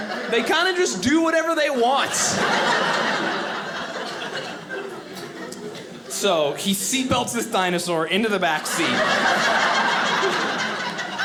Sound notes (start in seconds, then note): 1.8 audience laughing; 8.5 audience laughing